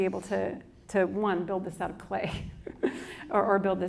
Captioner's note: laughs